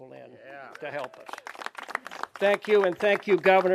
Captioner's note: clapping